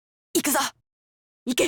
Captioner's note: whisper